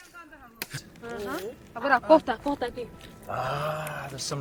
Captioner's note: woman speaking in foreign language